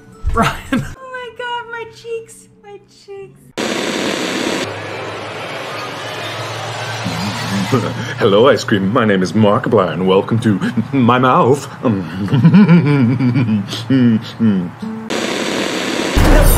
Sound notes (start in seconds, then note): 2.9 chuckling